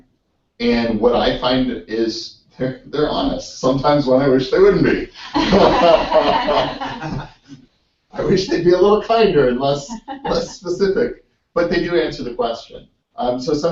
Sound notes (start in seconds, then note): 4.6 laugh